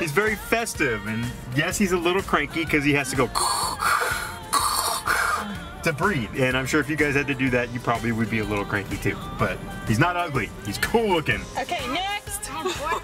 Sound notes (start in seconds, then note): 3.3 imitating labored Breathing